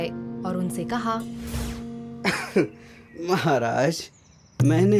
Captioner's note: coughs